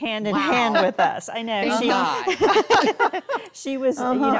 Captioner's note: all laughing